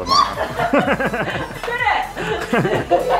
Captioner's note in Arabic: الكل يضحك